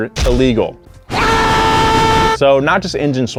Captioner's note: loud screaming